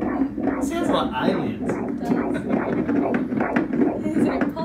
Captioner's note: laughs